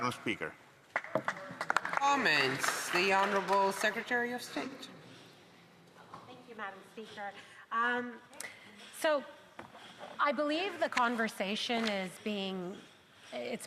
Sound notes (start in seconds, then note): 4.6 some Applause